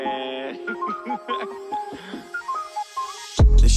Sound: laughter

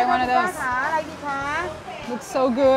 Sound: vendor speaks in foreign language

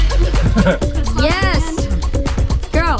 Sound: man laughs

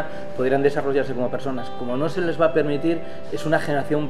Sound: none

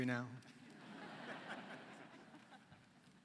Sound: laughter

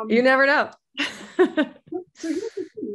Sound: laughs

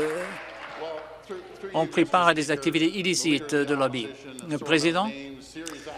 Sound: some Applause

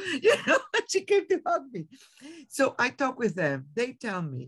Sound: laughs

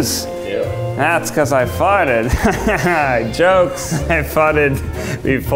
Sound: laughs

